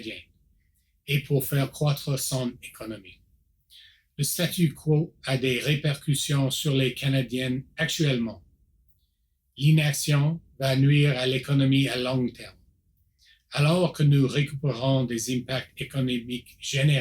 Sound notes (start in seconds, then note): 0.0 repeats in French